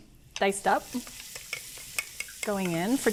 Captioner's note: pan sizzling